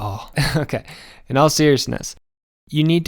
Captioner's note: laughs